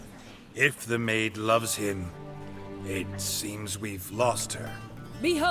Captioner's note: faltering